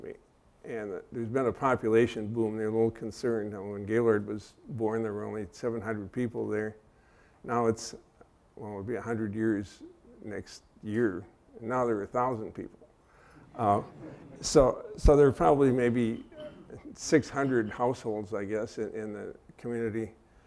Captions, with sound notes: And there's been a population boom there. They're a little concerned. When Gaylord was born, there were only 700 people there. Now, it'll be a hundred years next year. Now there are a thousand people. (laughter) So there are probably maybe 600 households, I guess, in the community.